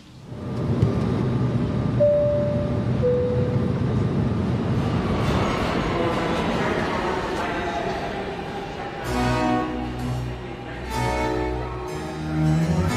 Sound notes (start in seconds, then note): 2.0 airplane announcement sounding; 5.1 trains passing; 8.7 orchestral music playing